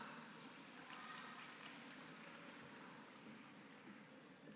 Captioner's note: applause